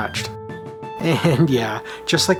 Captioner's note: chuckling